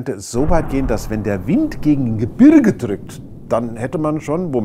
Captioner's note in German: Explosion; Windgeräusch